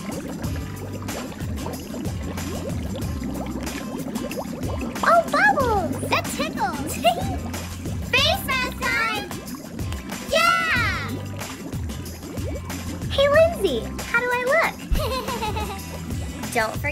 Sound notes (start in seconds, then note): 0.2 water bubbling; 7.6 giggling